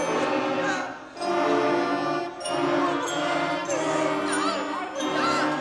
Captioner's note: actors chattering and sobbing